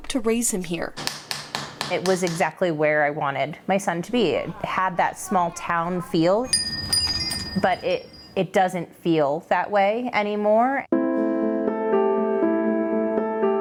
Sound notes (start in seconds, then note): 5.3 chimes ringing; 10.8 upbeat music